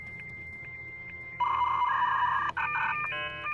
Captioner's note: beeping